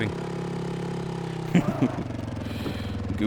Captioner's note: laugh